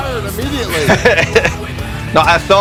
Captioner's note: laughs